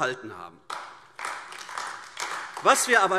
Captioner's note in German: Beifall AfD